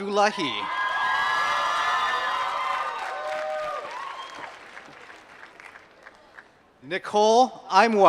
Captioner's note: applause